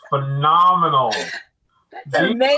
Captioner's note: laughing